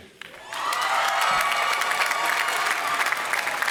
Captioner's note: applause